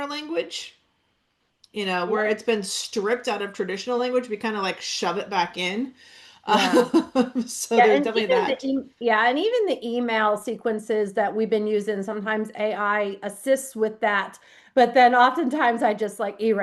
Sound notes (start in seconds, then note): 6.5 laughs